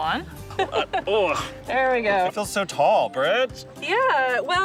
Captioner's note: laughing